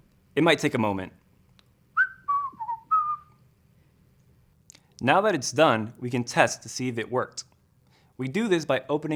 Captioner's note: whistles